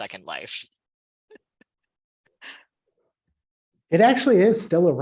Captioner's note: laughter